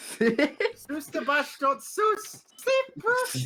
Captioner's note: voice crack